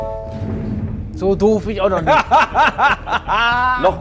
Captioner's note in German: Lachen